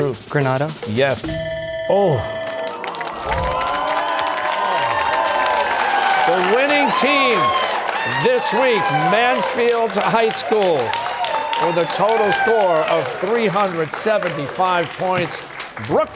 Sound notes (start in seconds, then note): 1.2 bell ringing; 2.6 audience sighs; 4.2 cheers and applause